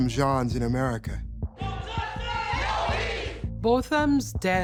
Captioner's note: crowd chanting